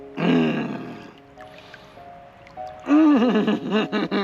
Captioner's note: grunting; chuckling